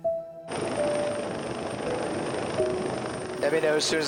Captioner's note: gentle music continues; helicopter rumbling